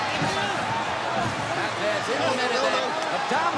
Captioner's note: crowd cheers